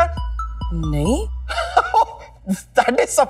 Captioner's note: Laughs